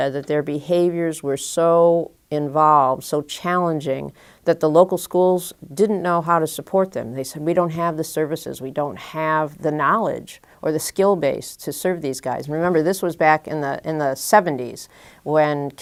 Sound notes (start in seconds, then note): none